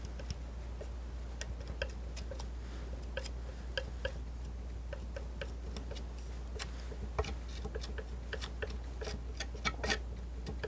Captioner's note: tapping